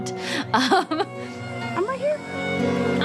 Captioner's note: laughing